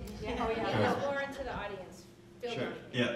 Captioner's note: people laughing